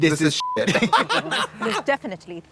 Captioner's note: beep; Trixie cackles